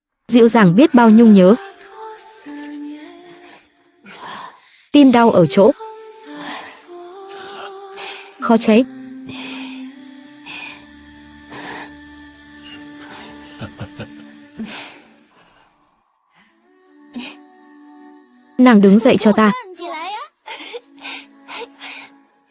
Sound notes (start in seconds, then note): 12.5 thở dài; 13.4 tiếng cười